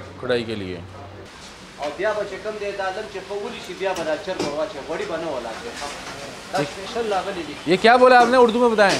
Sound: speaks Pashto

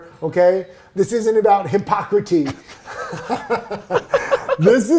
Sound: both laugh

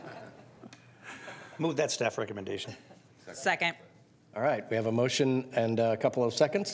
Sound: laughter

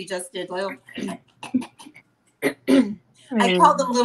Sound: clears throat; everyone clearing throat

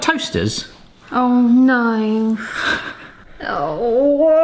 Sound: laughs

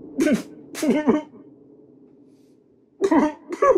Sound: Papi cries

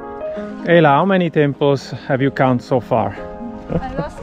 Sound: laughing

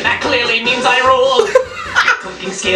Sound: laugh

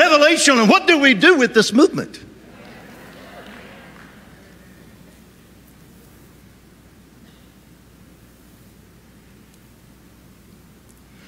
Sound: audience claps

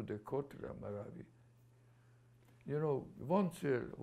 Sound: non-english

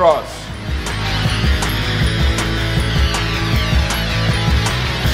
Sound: clapping

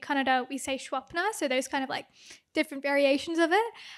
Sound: non-english

